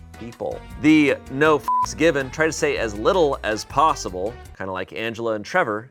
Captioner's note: beep